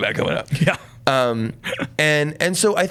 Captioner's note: laughs